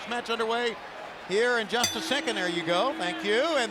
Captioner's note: bell rings